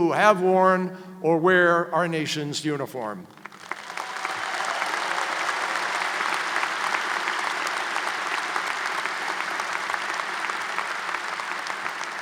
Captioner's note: applause